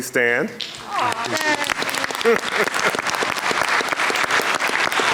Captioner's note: audience clapping